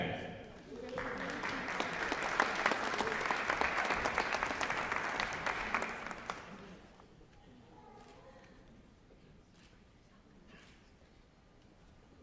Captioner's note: applause